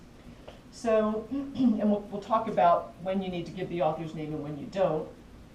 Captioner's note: cough